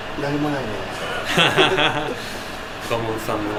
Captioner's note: laughs